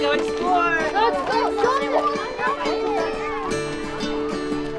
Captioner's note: chatter